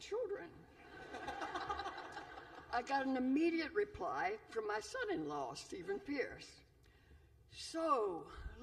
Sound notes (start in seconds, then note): 0.8 laughter